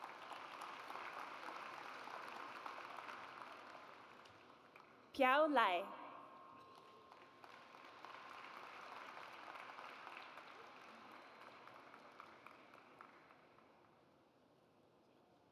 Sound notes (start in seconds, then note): 0.0 audience applauds; 6.7 audience applauds